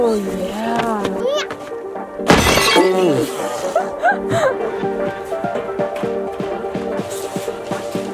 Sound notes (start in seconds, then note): 3.6 laughing